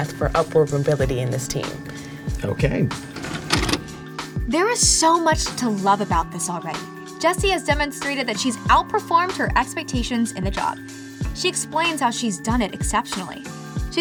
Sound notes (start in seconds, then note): 3.1 videotape pauses